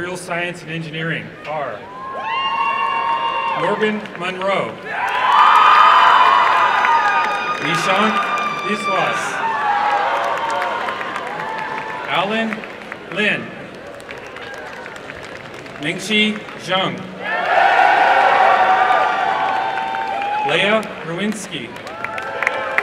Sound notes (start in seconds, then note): 5.3 applause and cheering; 9.6 applause and cheering; 13.6 applause; 18.0 applause and cheering